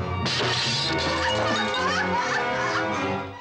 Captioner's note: glass shatters; woman sobbing; suspenseful orchestral music